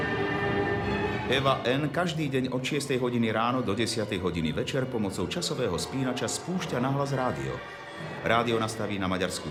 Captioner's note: voice of reporter